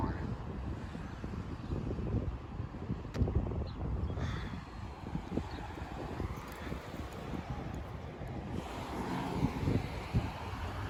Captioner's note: Traffic on Ludwig Road